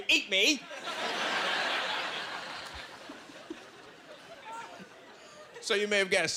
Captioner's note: laughing